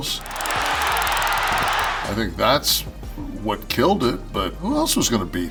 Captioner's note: applause